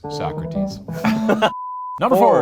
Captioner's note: beep